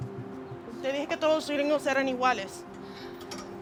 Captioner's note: speaking spanish